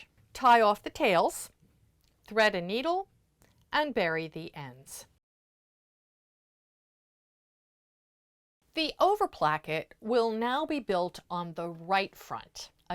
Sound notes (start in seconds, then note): 5.2 no Sound Present